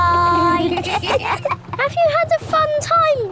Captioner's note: kids giggling